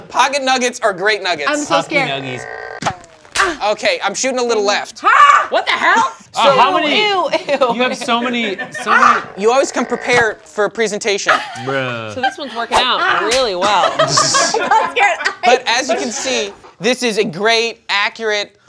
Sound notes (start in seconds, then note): 2.0 gadget creaks; 6.9 laughs; 13.3 gadget snaps